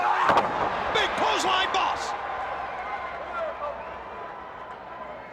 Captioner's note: crowd chattering